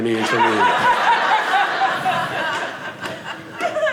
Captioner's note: audience laughing